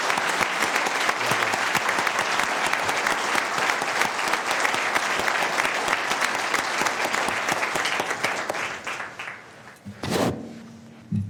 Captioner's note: applause